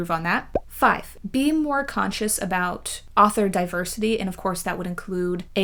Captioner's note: pop